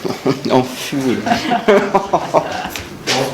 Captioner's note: laugh